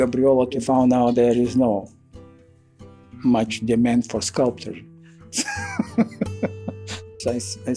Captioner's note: laughs